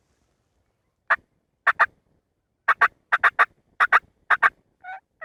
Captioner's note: turkey calling